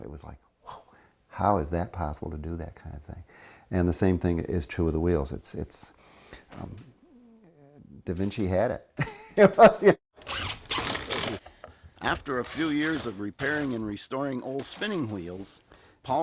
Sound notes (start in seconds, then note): 9.2 laughs; 10.2 drill whirring